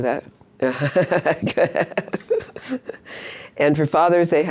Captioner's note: laughs